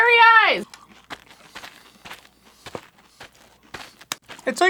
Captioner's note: just chewing on "grape" nuts